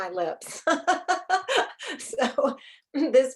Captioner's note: laughing